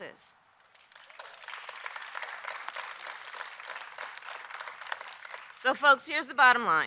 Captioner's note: applause